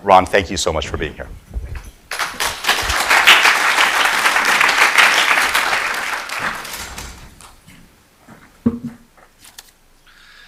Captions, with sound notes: Ron, thank you so much for being here. [APPLAUSE]